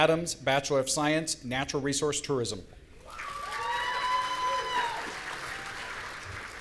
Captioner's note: audience cheering